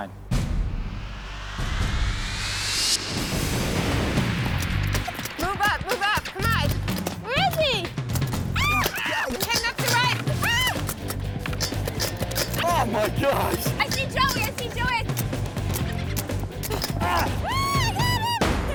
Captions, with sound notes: (dramatic music) - Move up, move up, come on. - Where is he? (women screaming) - Heading up the right. - Oh my gosh. - I see Joey, I see Joey. - Oh I got him!